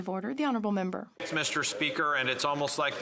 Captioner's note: speaking in French